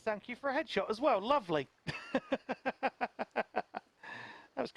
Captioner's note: laughs